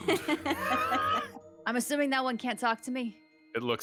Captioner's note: actor laughing